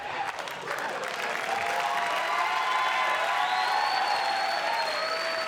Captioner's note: cheers and applause